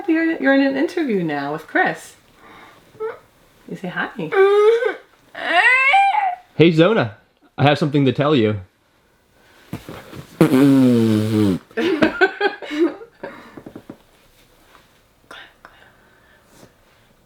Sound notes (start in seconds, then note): 4.3 vocalizing; 10.3 blows raspberry